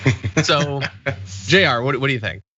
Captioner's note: laugh